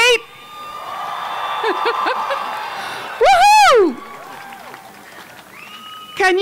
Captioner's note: cheering